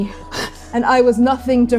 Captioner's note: breathing heavily; panting, lunging